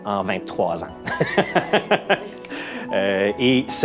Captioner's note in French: rire